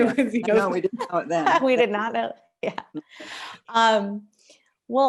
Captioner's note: laughter